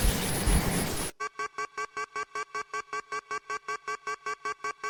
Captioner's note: error signal intensifies